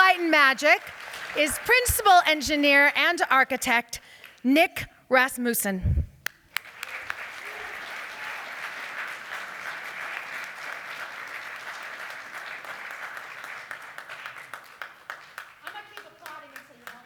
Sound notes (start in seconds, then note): 7.0 applause